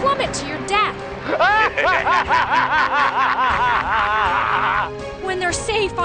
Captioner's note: laughing